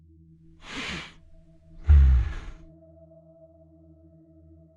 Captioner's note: bear sighing